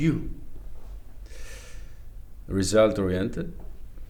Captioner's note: inhales